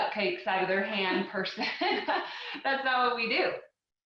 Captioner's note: laughing